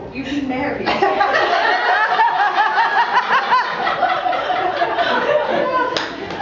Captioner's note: laughter